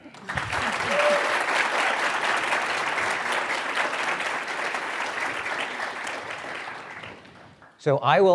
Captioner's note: applause